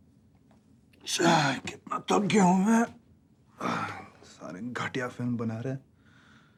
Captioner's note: mumbling in Indian language